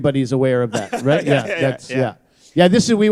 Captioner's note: laughter